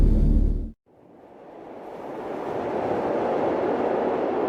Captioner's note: wind whooshing